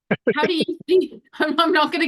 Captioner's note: laughs